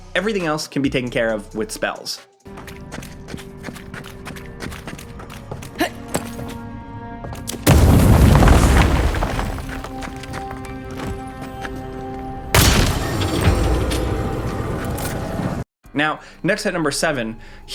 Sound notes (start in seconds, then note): 2.9 footsteps thudding; 5.7 character grunts; 7.6 explosion booms; 12.6 gun bangs